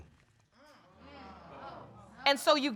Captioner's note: audience exclaims